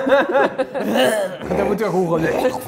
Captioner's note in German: Würggeräusch